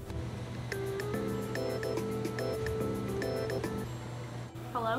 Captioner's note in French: sonnerie de téléphone